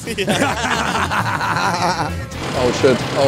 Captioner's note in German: Gelächter